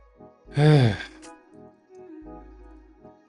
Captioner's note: sighs